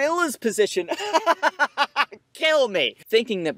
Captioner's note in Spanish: Risas